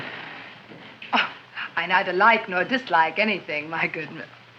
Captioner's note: chuckles